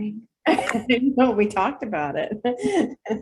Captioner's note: laughs